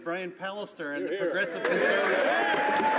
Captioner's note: applause